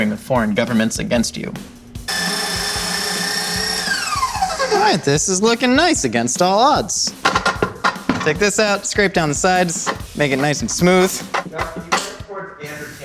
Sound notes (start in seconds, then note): 2.0 blender grinding